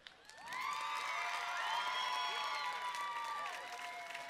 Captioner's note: cheering